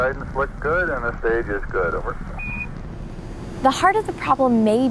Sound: radio beeping

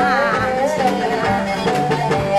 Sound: she cried

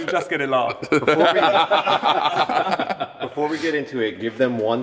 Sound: laughter

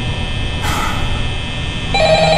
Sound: sigh; the phone is ringing

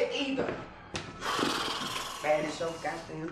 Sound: lips trilling

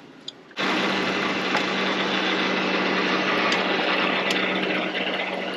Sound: car loudly roaring

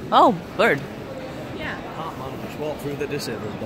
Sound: none

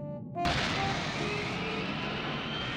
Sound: boarding ramp rumbling

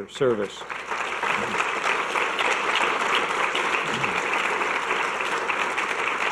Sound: audience clapping

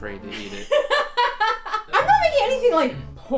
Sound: laughing

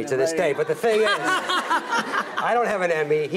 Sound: Rachel laughs

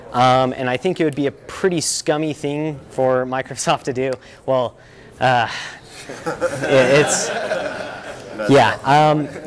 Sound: laughter

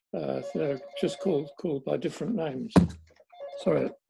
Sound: telephone rings

